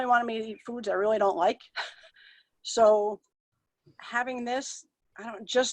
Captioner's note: chuckles